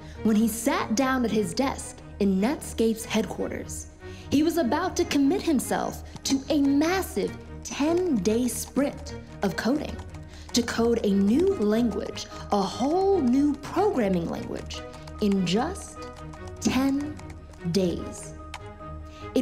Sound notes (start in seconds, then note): 9.4 keyboard clicking